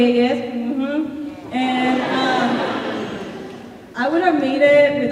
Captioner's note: laughing